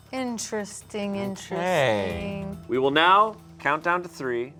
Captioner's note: none